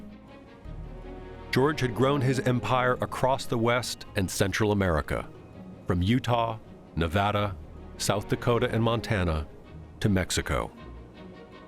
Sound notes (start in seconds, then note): none